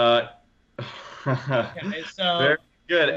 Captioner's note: chuckles